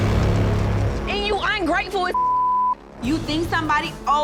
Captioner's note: tense dramatic music; beeping